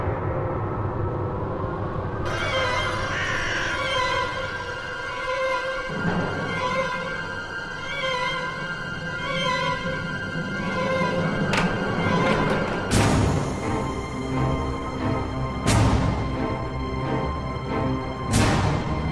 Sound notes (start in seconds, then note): 0.1 sinister music; 2.2 bird cawing